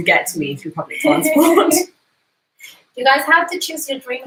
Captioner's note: laughs